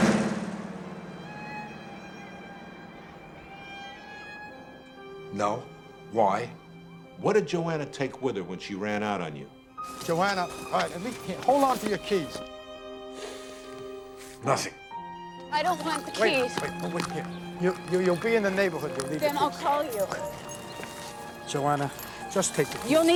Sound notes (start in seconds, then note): 13.2 sighs